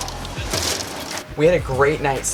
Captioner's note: laughing